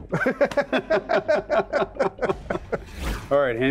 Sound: men laughing

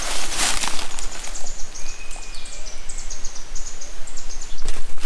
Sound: birds tweeting

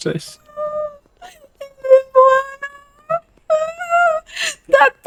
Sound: sobs

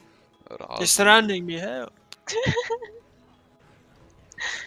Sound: haha

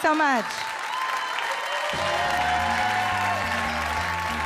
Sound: audience cheers and applauds; upbeat music

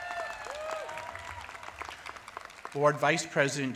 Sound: cheers and applause

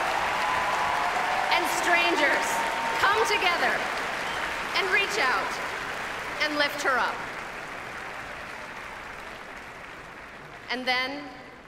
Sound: applause

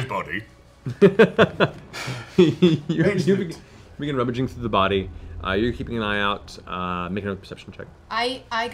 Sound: laughs

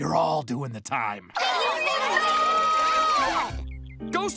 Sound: arguing and screaming

